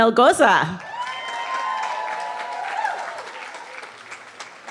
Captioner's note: cheering